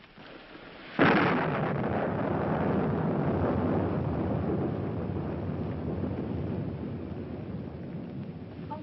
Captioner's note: thunder